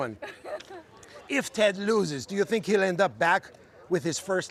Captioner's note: laughter